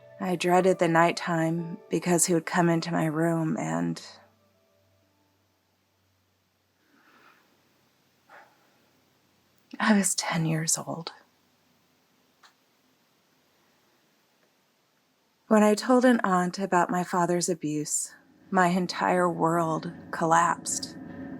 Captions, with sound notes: I dreaded the nighttime because he would come into my room and... [takes a breath] I was 10 years old. When I told an aunt about my father's abuse my entire world collapsed.